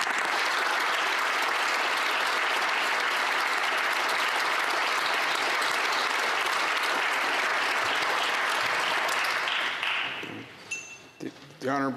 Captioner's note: applause